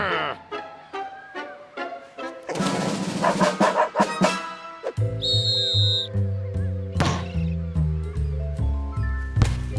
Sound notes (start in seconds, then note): 3.2 barking; 5.1 whistle blows